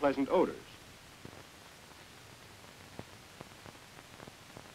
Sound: silence

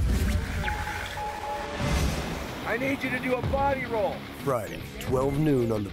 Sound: beeps

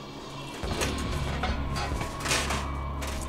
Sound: gate creaks open

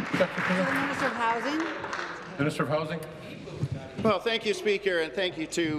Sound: applause

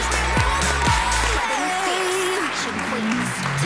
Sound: applause

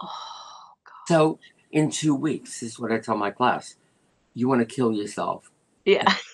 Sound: laughter

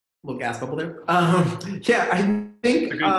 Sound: laughs

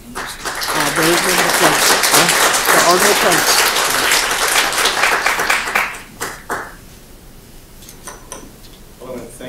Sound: applause

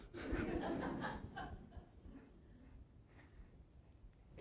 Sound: audience laughing

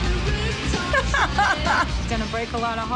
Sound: laughs

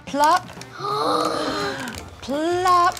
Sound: both gasp

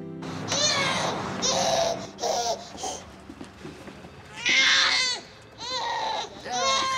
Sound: baby crying

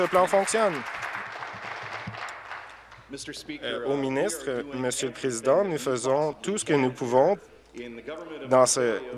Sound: applause

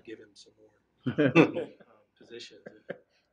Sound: laughing

